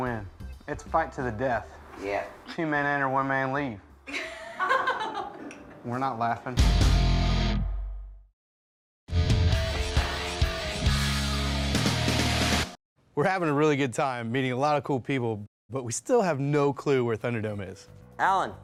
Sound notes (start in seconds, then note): 4.1 laughing; 9.1 rock music